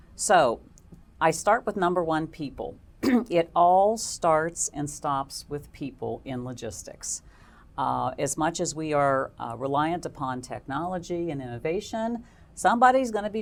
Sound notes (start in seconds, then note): 3.0 cough